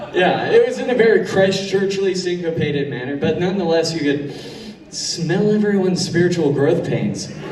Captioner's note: sniffs